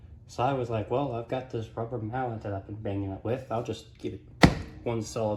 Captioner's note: smacks floor